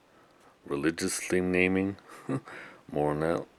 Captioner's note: chuckles